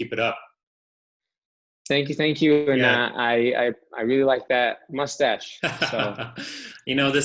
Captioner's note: laugher